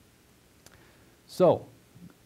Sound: pause

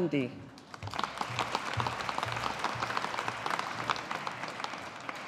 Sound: audience applauding

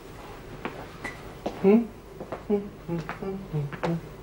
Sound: hums quietly

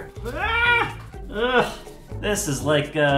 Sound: sounds of disgust

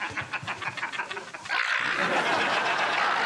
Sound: screaming

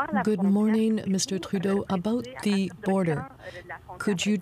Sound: speaking french

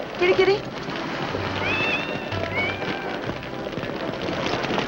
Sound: cat mewing

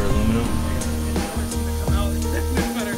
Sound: buzzing

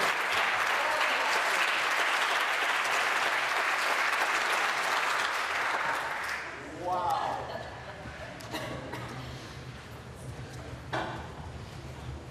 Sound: applause

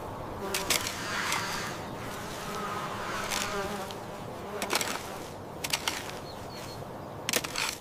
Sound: work sounds

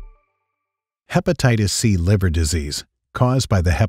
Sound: voiceover

